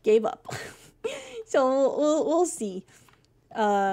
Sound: laughs

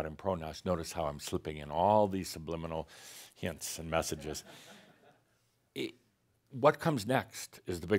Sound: some chuckles

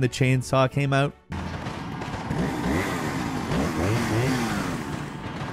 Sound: chainsaw revving

